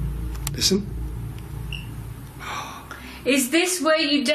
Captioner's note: gasps